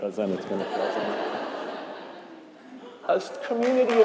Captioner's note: crowd laughing